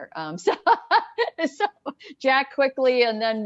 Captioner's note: laughs loudly